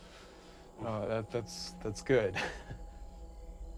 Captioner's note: laughs